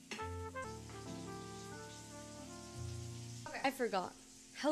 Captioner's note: soft Music; sizzling